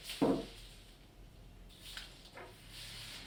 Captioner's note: knock